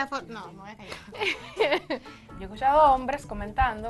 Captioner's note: laugh